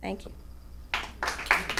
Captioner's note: applause